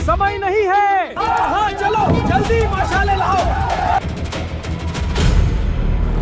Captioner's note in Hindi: चीखने की आवाज़